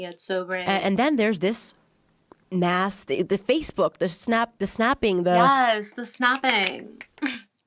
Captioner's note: yaaas, the snapping!